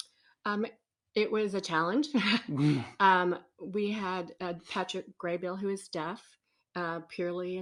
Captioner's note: laughs